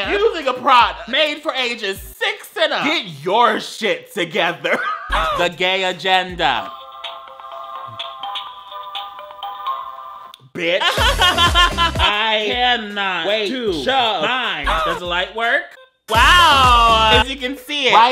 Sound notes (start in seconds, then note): 5.2 boy grunts; 6.8 diary playing music; 10.6 laughs; 14.6 boy grunts